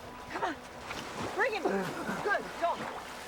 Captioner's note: coughing